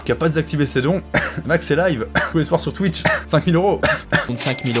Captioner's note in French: tousse